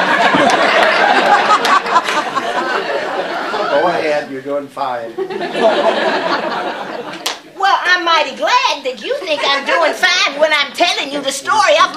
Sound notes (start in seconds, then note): 0.0 laughter; 5.1 laughter